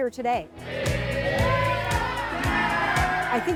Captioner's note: cheering fish toss